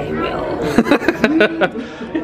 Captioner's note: laughing